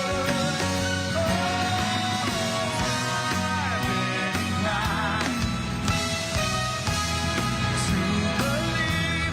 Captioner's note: cheers and applause